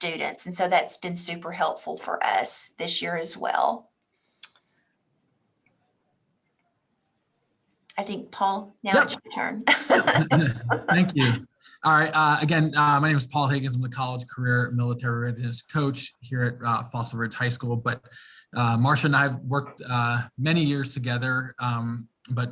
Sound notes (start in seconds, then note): 9.6 laughs